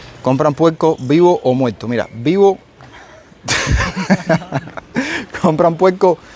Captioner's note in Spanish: risas